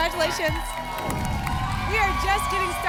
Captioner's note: applause and cheering